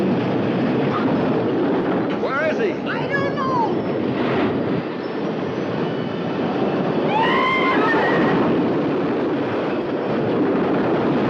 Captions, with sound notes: - Where is he? - I don't know! (roller coaster rattling) (people screaming)